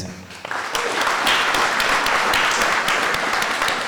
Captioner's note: applause